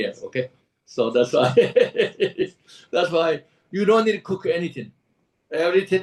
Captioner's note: laughs